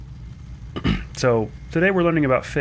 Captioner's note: ahem